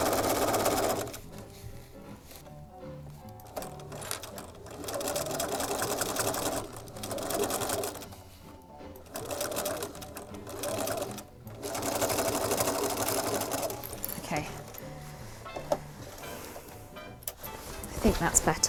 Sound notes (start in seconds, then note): 5.8 sewing